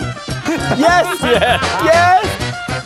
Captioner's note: laughing